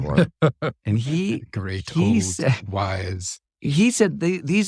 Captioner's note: laugh